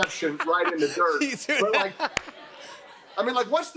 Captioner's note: laughter